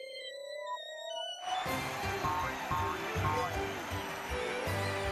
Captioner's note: audience cheering